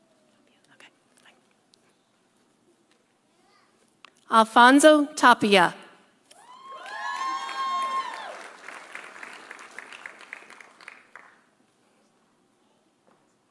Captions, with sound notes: Alfonso Tapia. (audience cheering) (audience applauding)